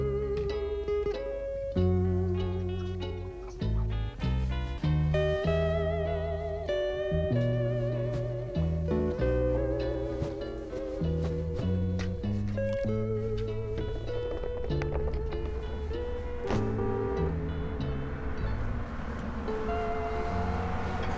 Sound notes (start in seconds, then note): 12.0 jiggling; 15.4 horn honks